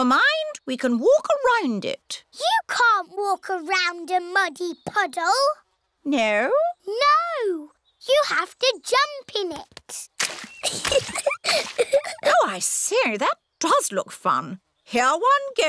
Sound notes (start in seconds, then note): 10.6 giggles